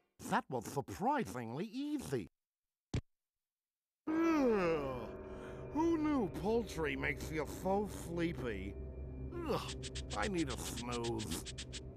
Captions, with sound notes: THAT WAS SURPRISINGLY EASY. [yawning] WHO KNEW POULTRY MAKES YOU SO SLEEPY. I NEED A SNOOZE.